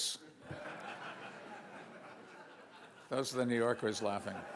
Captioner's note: audience laughs